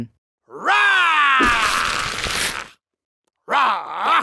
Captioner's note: Saul roaring; Saul growling